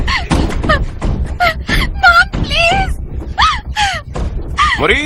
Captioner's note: pounding continues